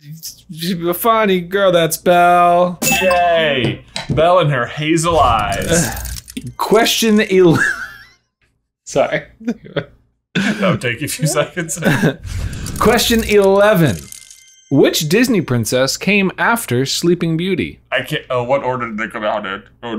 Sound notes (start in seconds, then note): 7.4 laughing